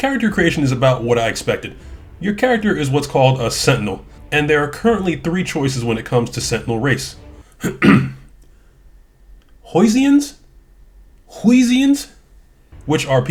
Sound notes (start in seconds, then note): 7.6 clears throat